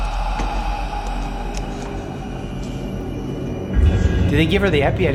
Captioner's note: heavy breathing